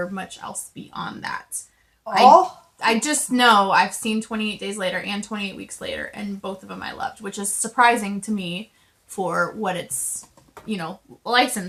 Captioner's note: ohh!!